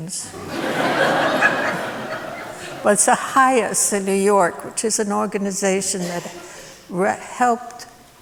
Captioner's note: laughter